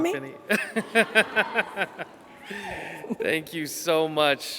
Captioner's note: laughing; attendees hollering